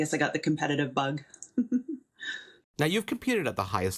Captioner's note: laughing